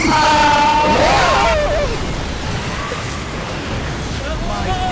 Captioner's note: misc screaming